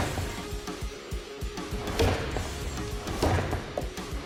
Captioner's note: chopping